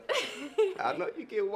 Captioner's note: laughs